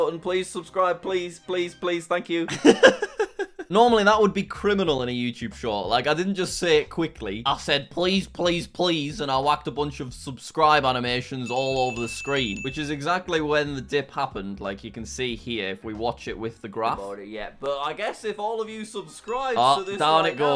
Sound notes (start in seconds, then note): 2.5 laughing